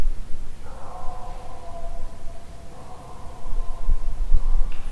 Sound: canine howling

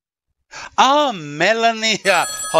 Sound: phone rings

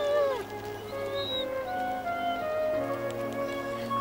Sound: whimpers

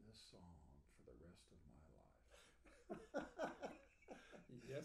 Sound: laughing

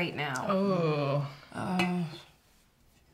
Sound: sighs

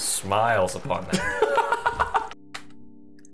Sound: laughing

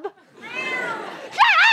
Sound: distant meow

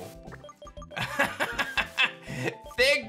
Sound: laughs

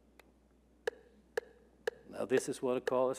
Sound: steady metronome

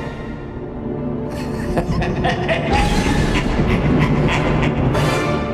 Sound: evil laughter

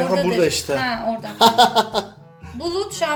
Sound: laughs

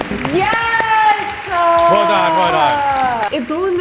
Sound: polite applause

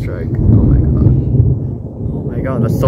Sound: very loud, deep thunder

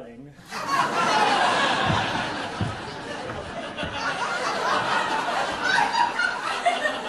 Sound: audience laughing

